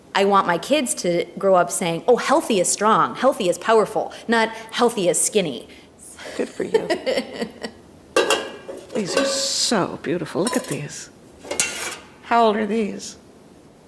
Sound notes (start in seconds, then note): 6.2 laughing; 8.1 pots clattering